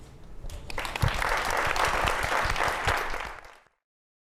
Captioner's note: applause